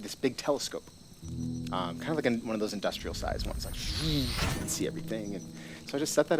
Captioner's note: woosh